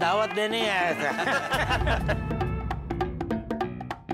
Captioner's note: laughing